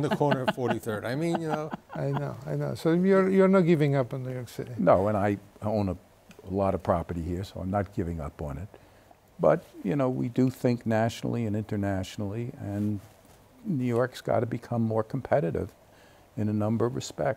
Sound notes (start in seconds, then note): 2.6 laughing